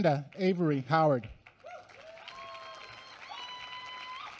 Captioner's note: applause